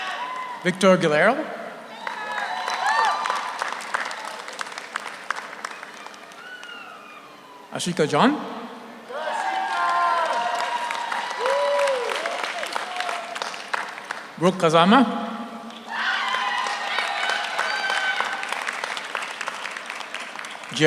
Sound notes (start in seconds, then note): 1.8 audience cheers; 1.9 audience applauds; 9.0 audience cheers; 9.1 audience applauds; 15.7 audience cheers; 15.7 audience applauds